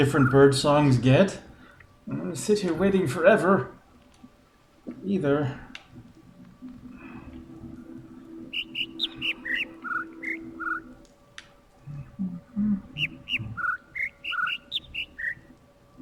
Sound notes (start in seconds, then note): 0.8 overlapping birds chirping, ˥ ˥ ˩ ˧ ˩; 8.3 overlapping birds chirping, ˥ ˥ ˩ ˧ ˩; 12.1 attempting to imitate notes